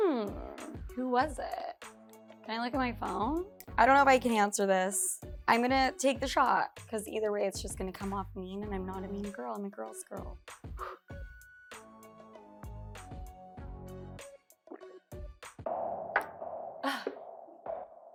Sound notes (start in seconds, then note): 10.8 exhales; 12.4 hip music